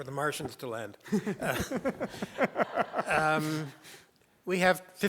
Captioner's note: laughter